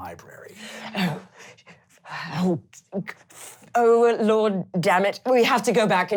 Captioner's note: angry grumbling